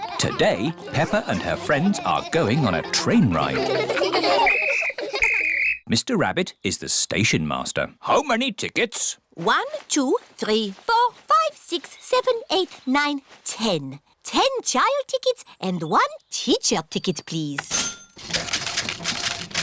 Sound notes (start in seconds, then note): 5.1 blows whistle; 17.6 cash register dings